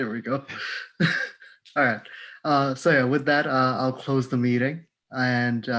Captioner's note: laugh